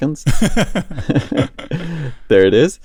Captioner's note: laughter